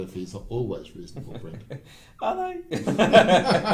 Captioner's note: laughing